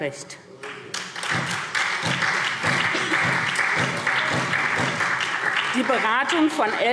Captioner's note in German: Beifall SPD